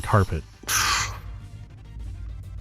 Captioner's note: loud gasp